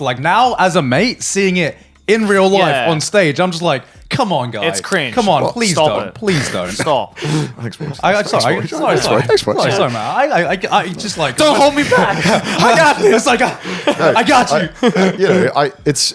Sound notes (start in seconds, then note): 12.0 laugh; 14.4 chuckles